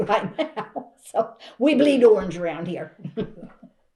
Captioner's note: laughs